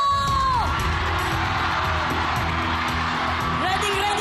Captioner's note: audience cheering